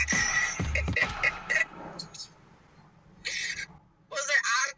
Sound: laughs

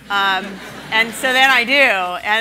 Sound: laughing

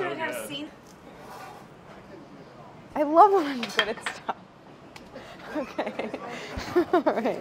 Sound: laughs

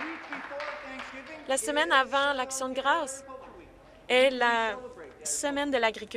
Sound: applause

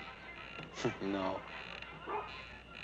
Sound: chuckles

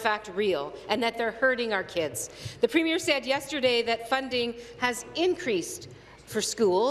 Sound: none

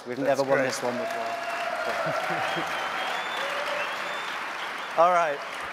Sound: applause

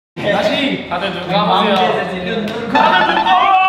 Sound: clown laughing in front of you

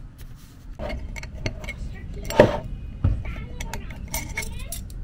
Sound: glass clanking

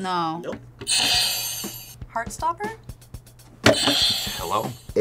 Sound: bell rings; bell rings

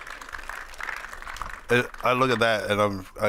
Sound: audience clapping

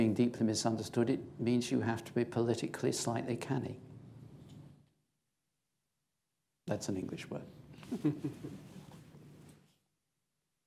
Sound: laughter

